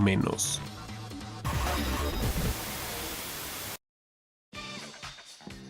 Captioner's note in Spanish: Interferencia